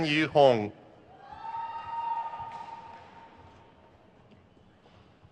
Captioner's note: crowd cheers